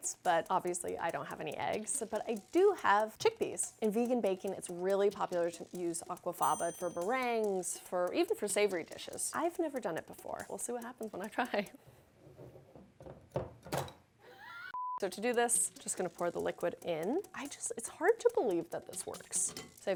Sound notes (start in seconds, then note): 14.7 beep